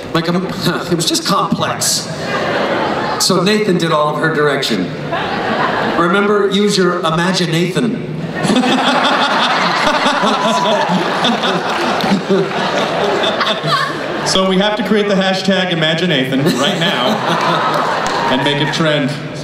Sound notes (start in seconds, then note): 8.3 laughter